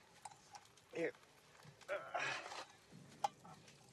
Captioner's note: grunts